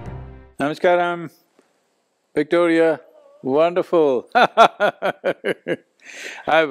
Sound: laughs

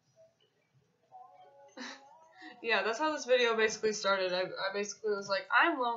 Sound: laughs

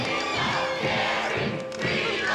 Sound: chanting

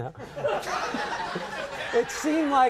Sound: laughing

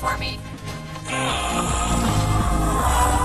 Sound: batman groaning

